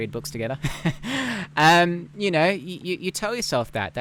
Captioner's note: laughs